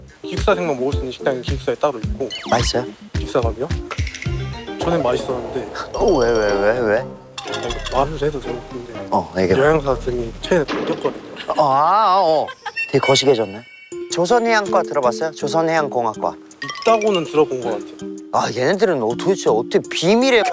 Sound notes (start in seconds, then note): 7.4 hesitant